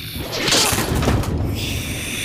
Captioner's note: crunch